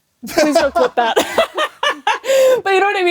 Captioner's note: both laugh